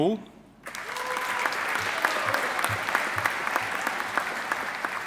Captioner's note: audience applauding